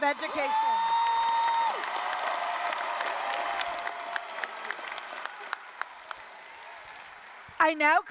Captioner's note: applause, cheering